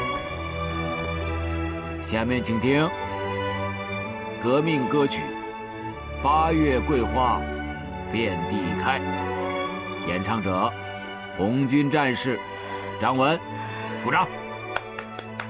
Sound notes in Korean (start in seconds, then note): 14.6 박수